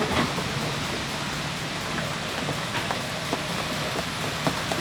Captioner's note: wind roaring